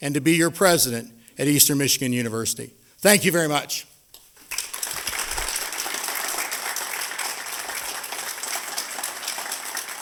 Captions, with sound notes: and to be your President at Eastern Michigan University. Thank you very much. [APPLAUSE]